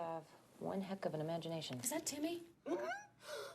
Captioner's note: gasps; gulps